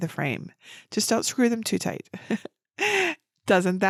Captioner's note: laughs